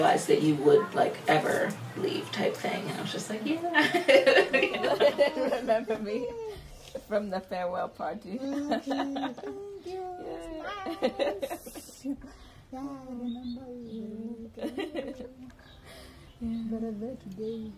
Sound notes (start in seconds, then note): 10.9 laughs; 17.6 laughs